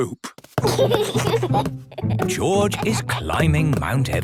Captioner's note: giggles